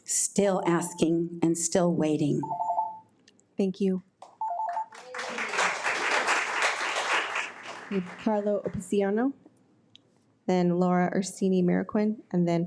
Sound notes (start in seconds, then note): 4.6 audience applauds